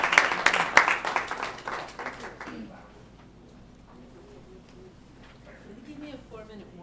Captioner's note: applause